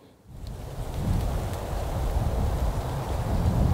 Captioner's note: wind blowing